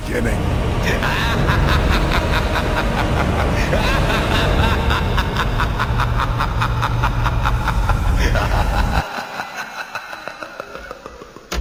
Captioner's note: evil laughter